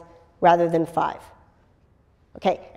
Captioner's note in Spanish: pausa